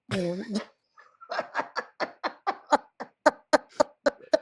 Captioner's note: both laugh